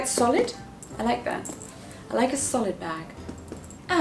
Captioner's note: knock knock